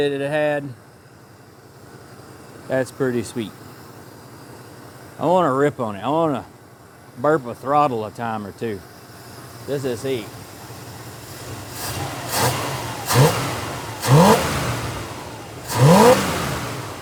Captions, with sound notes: had, that's pretty sweet. I wanna rip on it. I wanna burp a throttle a time or two. This is neat. (Machine Whirring)